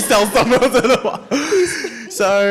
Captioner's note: all laugh